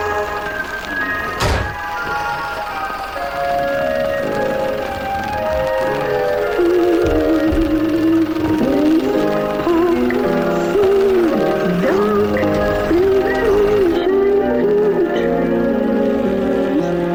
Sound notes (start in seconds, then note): 0.1 zombie growling; 1.4 gunshot booming